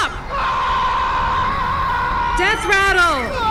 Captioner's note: screaming